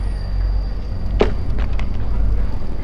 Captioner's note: the clatter of a dropped tape recorder, muffled against carpet